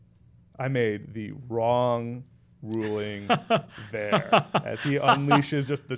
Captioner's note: laughing